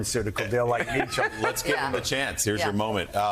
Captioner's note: laughter